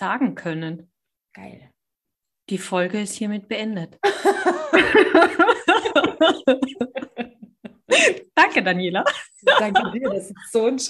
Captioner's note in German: lachen